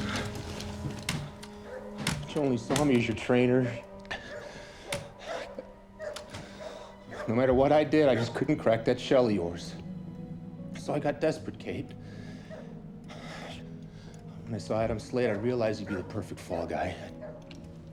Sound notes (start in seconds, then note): 3.5 dog barking; 3.7 panting